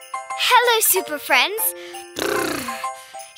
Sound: shivering

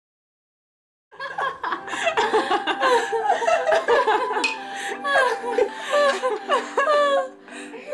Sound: gentle laughter

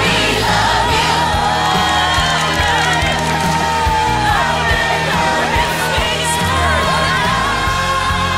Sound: clapping; cheering

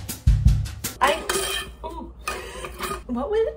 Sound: laughs

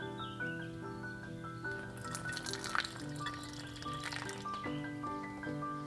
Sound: tea pours into cup

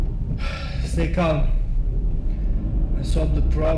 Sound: sighs

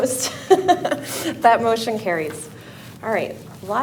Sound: laughing

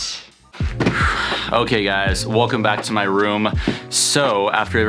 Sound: sighs

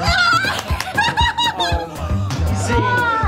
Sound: laughing

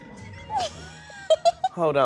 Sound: girls giggling

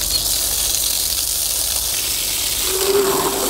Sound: water flowing

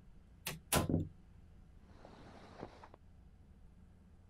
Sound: door latching

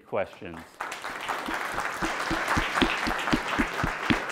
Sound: clapping

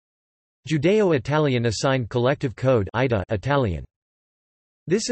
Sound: Italian

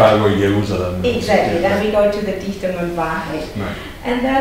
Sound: foreign language

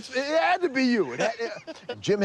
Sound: laughing

